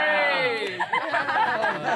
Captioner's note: laughing